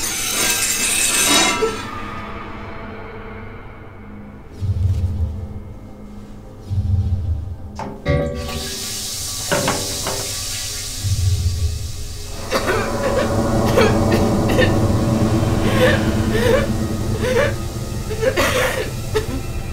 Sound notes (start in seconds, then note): 8.0 hissing; 12.4 coughing; 17.2 crying